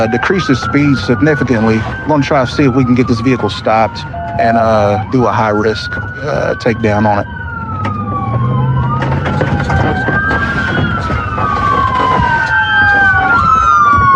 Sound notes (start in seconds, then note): 8.4 sirirens s wawailing